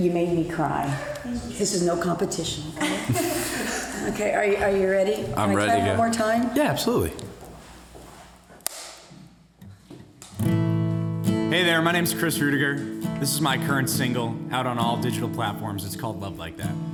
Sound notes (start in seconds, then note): 8.6 snap; 10.2 acoustic guitar music